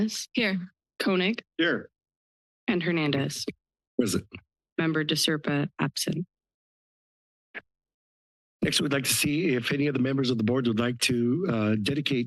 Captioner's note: background chatter